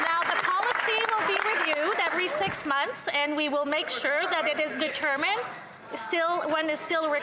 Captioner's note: applause